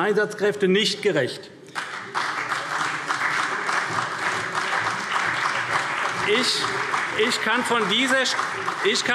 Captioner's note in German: Beifall CDU und BÜNDNIS 90/DIE GRÜNEN